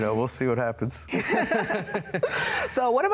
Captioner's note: laughing